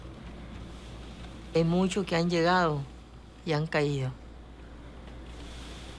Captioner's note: speaking Spanish